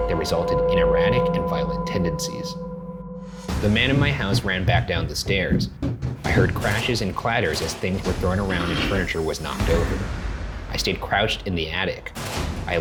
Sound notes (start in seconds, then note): 5.6 footsteps